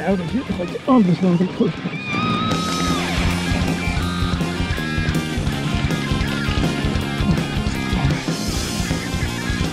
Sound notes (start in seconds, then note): 7.2 grunts